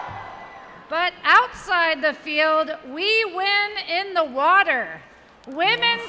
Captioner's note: cheers